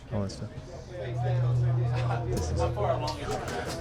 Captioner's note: people chattering